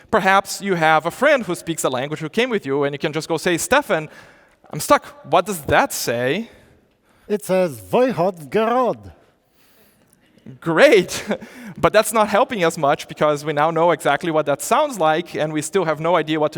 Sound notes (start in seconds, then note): 7.8 speaks in foreign language